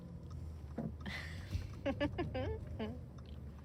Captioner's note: laughs